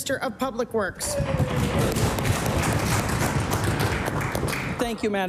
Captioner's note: some Applause